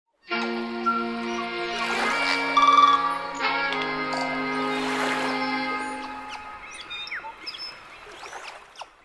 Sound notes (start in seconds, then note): 0.3 groovy music; 1.2 water splashing; 1.3 birds chirping